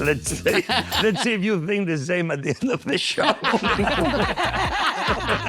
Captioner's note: laughing